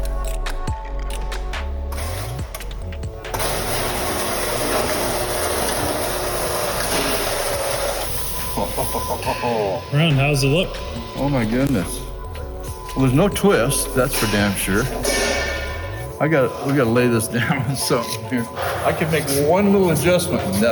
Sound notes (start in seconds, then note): 0.2 upbeat music continues; 3.7 machine rumbling; 8.4 chuckling